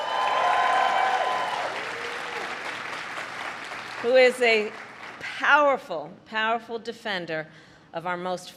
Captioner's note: applause